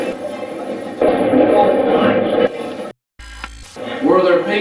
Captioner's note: loud static playback transmitting; static fizzing